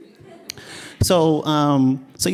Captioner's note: laughing